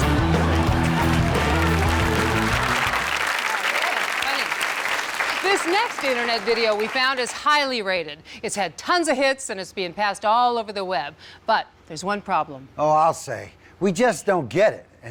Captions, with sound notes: (audience applauds) - Funny. This next internet video we found is highly rated. It's had tons of hits and it's being passed all over the web. But, there's one problem. - Oh, I'll say. We just don't get it.